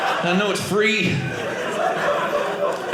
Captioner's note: audience laughing